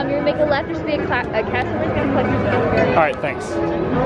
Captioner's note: voice trails off